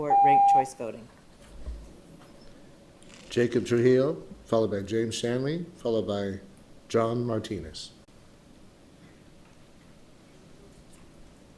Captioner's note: loud beep